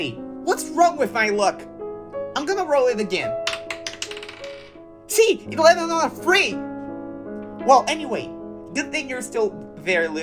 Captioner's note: dice noises